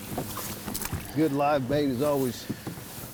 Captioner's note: small splash in water